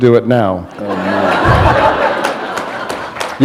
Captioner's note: laughter